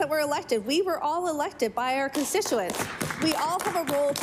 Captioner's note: applause